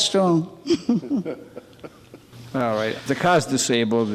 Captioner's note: man laughs